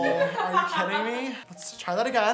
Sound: laughs

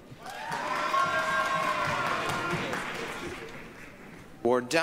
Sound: applause, cheering

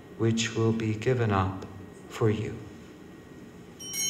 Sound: bell ringing

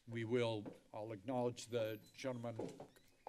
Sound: none

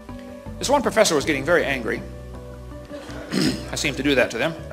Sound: clears his throat

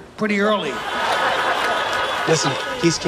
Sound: cars honking; laughter

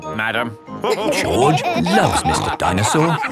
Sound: all laughing

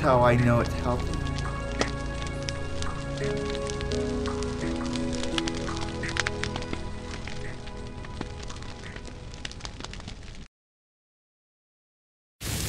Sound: fire crackling and pine cone popping; loud fire and smoke

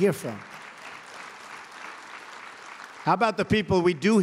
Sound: applause

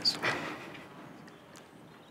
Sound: laughs

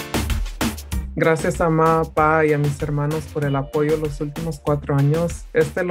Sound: speaks in foreign language

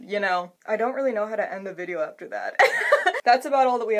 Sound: laughs

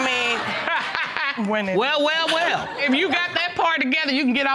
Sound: laughing

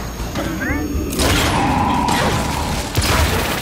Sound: gunshots

